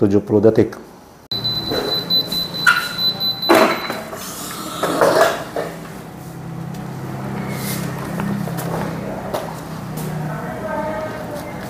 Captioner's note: press machine noise